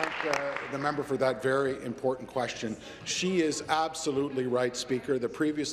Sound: some Applause

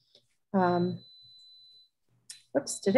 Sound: alarm beeping

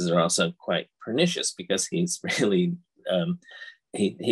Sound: chuckles

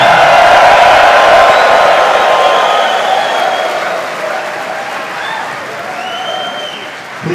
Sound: cheering!!

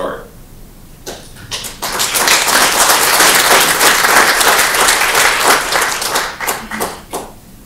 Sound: applause

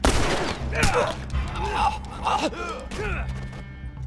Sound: groans and chokes

